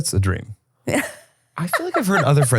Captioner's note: laughs